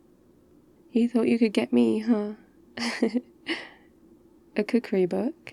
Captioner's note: laughs